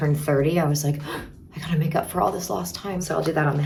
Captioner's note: gasps